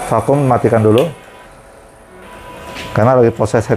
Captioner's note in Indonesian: suara mesin printer